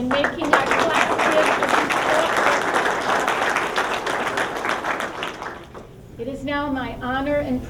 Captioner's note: applause